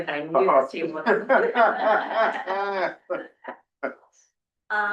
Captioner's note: laughter